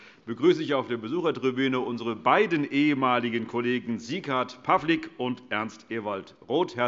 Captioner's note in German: none